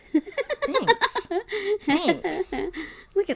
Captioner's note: laughs